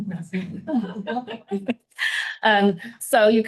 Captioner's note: all laughing